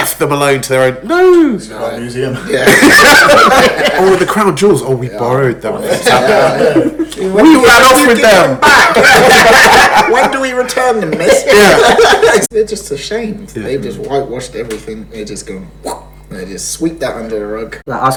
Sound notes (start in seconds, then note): 2.4 laughs; 11.9 laughs